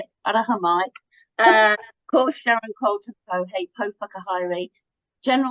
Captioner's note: speaks te Reo Māori